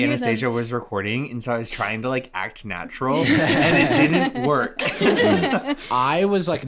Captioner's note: laughs